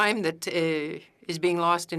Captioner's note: speaking French